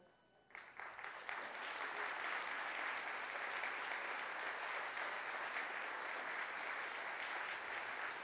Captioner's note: applause